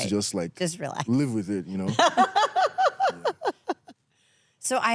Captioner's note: laughs